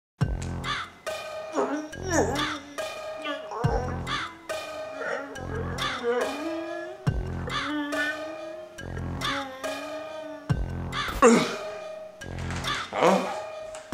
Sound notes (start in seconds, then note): 0.1 struggling type beat cuts in; 1.8 ugly struggling noises; 2.3 struggling type beat cuts in; 6.1 ugly struggling noises; 11.4 exhales